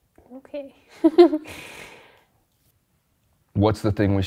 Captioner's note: laughs